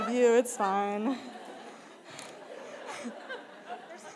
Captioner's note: laughter